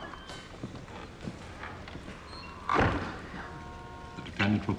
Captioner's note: door opens, closes